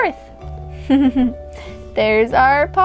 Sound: giggles

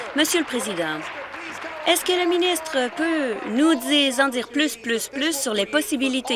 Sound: applause

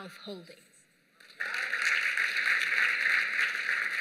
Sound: applause

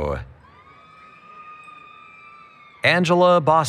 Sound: cheering

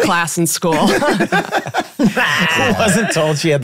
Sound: all laughing

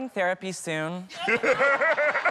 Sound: laughter

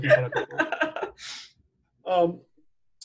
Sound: laughs

